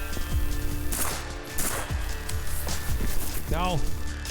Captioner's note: gunshot rings out